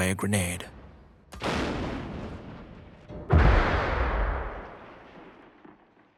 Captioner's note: howitzer shooting